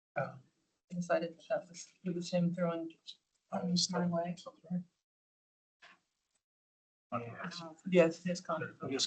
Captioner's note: chatter